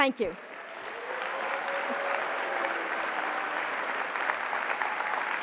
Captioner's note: applause and cheering